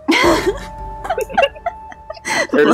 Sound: laughter

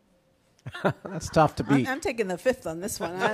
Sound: chuckles

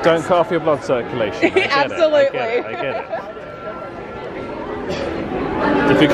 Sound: laughs

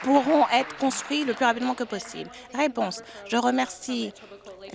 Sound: applause

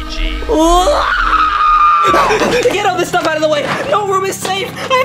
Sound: yelling

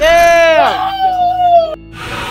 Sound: howling

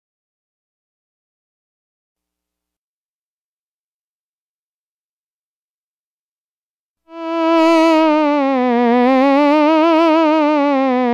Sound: hypnotism tones

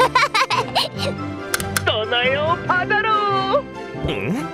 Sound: laughing; click

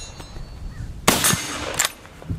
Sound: gun fires

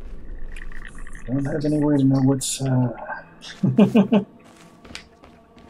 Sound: chuckles

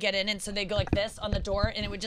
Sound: tapping on mics

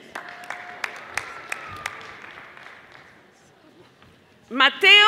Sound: audience applauding

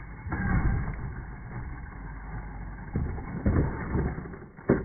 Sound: truck crashing

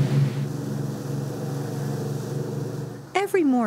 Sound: sound of boat engine

